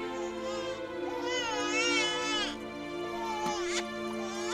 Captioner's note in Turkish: Bebek ağlama sesi